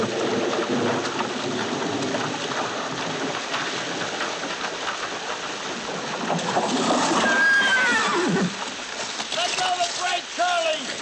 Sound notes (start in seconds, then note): 6.6 whinnying